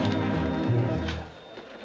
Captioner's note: people chattering